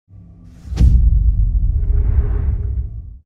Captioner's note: dramatic sound